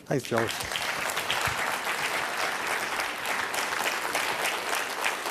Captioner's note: applause